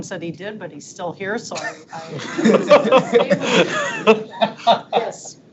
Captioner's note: board members laughing